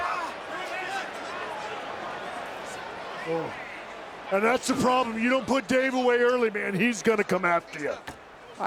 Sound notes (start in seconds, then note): 0.0 crowd clamoring